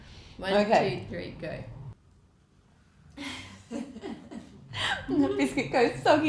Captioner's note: laughter